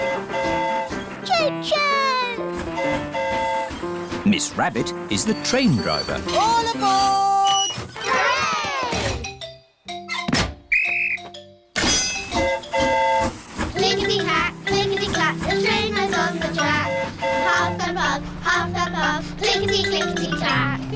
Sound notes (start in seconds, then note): 2.5 train horn hooting; 10.7 blows whistle; 10.7 train horn toots